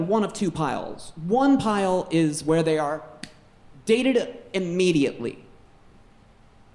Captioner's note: snaps